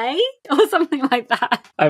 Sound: laughing

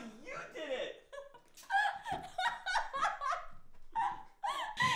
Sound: laughing

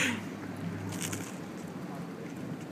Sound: crunch

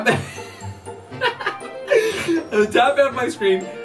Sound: laughing

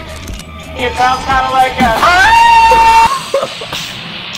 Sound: shriek; rock music

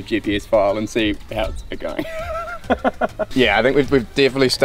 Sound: chuckles

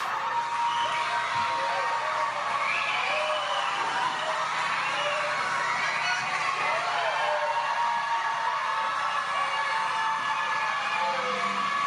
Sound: cheers and applause

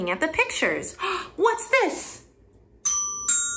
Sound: gasp

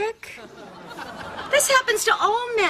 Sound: audience laughing

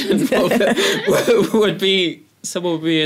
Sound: laugh

